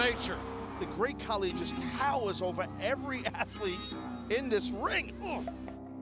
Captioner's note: laugh